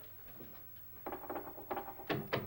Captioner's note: knocking